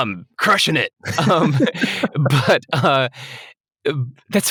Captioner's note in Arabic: يضحك